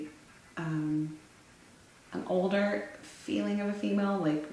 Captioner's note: none